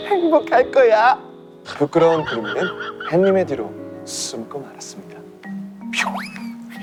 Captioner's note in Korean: 음소거 웃음